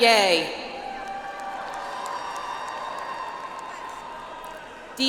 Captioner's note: audience applauds